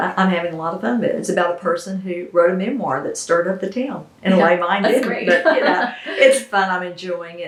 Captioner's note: laughter